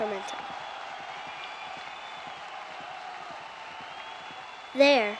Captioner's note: crowds cheering